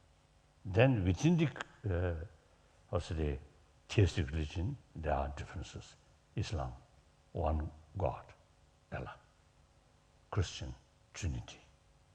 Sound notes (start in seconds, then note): none